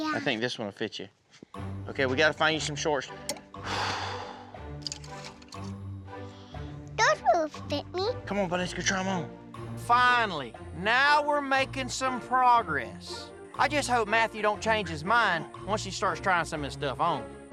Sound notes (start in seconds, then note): 3.6 sighs